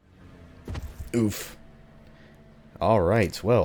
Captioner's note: thud